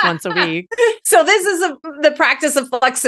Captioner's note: laughing